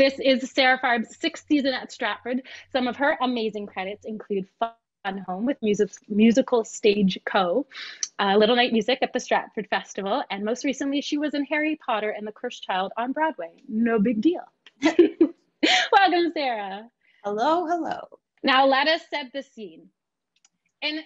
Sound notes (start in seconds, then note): 15.3 laughs